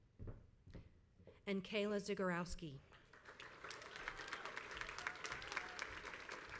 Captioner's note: crowd applauds